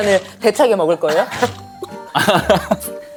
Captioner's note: nom nom